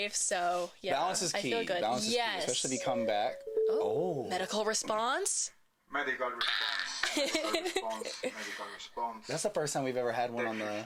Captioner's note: ding dong